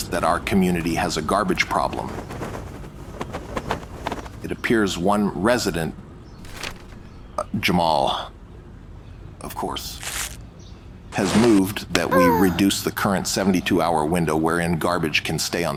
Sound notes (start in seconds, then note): 1.5 sound of flapping flags; 6.4 paper rustles; 9.4 mutters under breath; 10.0 paper crumples